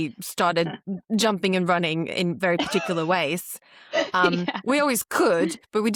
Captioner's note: laughs